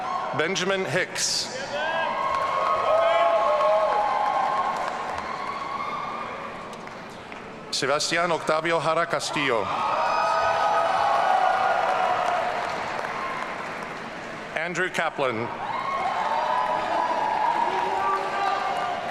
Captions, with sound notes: Benjamin Hicks. (audience cheering) Sebastian Octavio Jara Castillo. (audience cheering) Andrew Kaplan. (audience cheering)